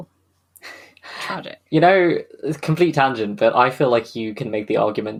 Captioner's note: laughs